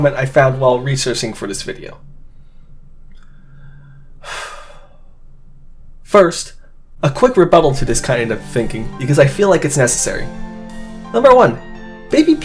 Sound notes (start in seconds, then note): 4.2 audible sigh